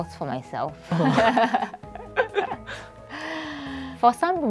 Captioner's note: laughs